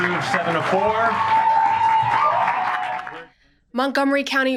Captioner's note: cheers and applause